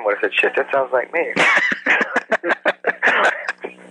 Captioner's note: laughs